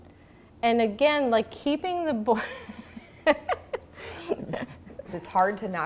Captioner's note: laughs